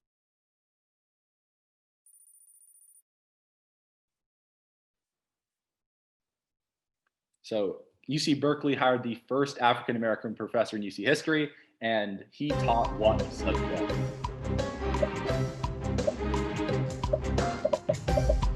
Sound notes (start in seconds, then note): 12.6 dramatic music; 15.0 popping